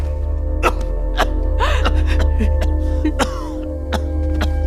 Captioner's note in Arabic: سعال، سعال، سعال